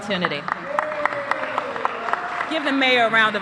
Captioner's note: cheers and applause